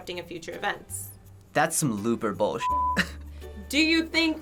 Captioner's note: chuckles